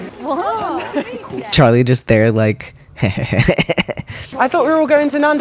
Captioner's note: thirsty chuckle